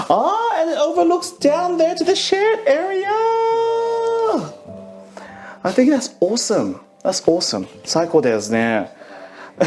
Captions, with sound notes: Ah, and it overlooks down there to the shared area! I think that's awesome. That's awesome. (speaking foreign language) (laughs)